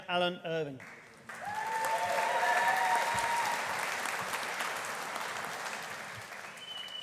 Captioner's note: audience applauding; audience cheering